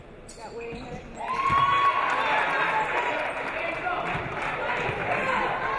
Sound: audience cheering

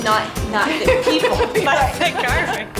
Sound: laughing

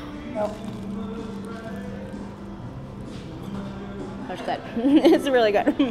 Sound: crunching loudly

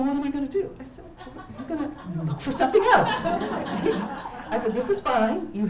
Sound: laughs

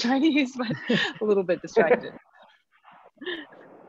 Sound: laughs

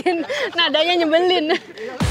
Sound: chuckled

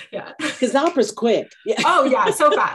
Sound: laughing

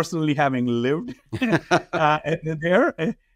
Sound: both men laugh

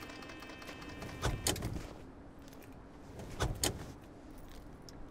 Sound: clicking

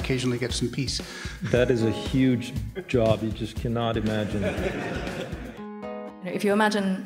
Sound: laughter

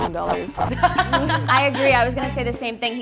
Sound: laughing

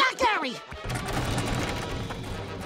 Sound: rattling

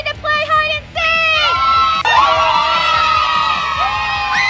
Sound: cheering

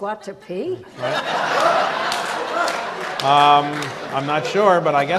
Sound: audience laughs

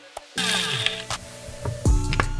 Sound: grinder whirring; smooth upbeat music continues

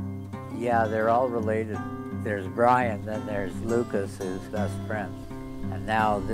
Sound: Stan narrating

